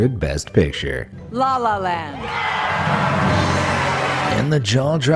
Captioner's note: audience cheering